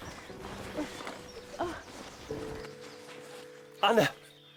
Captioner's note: tent thudding; Anna grunting